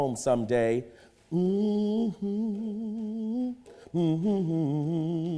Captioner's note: humming